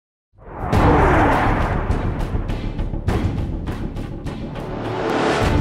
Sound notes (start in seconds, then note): 0.5 jet engine roaring; 2.4 epic music